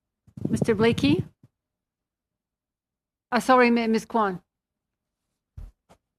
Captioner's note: speaking in French